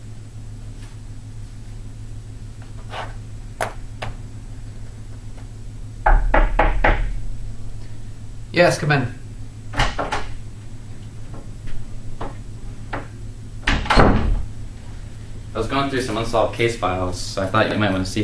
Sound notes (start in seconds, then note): 6.0 door knocks; 9.6 door opens and closes